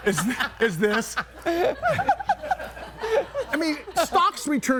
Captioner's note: everybody laughing